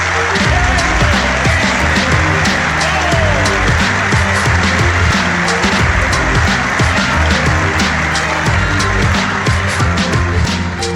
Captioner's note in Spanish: Aplausos